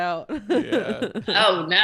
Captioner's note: laughing